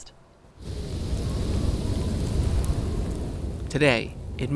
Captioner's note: wind whooshing; snow pattering